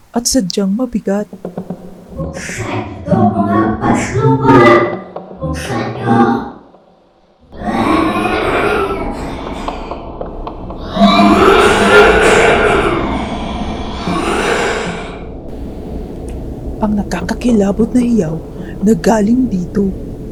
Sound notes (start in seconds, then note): 7.6 monster growls